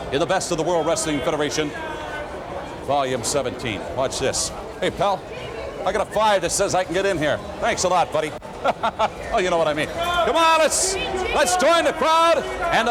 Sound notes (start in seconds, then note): 8.5 laughs